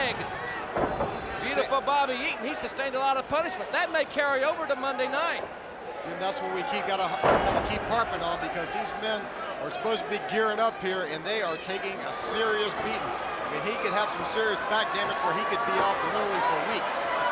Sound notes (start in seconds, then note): 4.5 crowd chatter